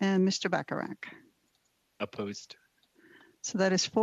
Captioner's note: speaking FRENCH